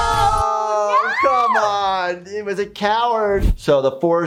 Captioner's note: both shriek